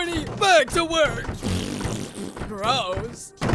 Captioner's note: blows raspberry